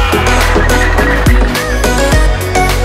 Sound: blocks clattering; people exclaiming

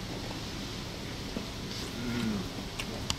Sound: sip

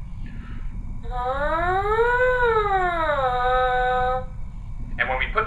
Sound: bbvvrrrrrRRRRRrrrrrrr

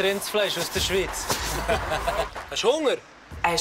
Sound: laughs

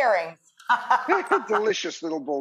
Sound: laughing

